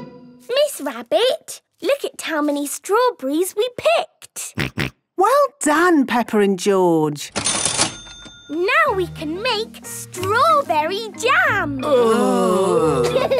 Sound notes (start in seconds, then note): 7.3 till rings; 11.8 groaning